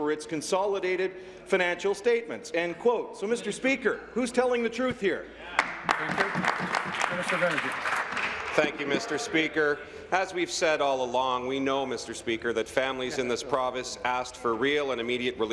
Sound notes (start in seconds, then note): 8.7 applause